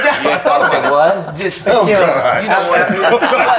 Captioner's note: laughs